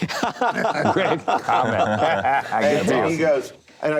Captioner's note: laughing